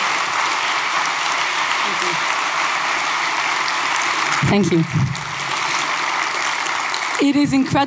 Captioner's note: applause